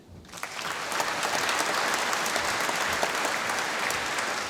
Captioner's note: applause